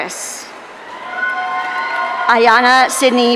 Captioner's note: audience cheering